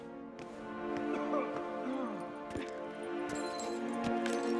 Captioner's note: coughing, groaning; glass crunching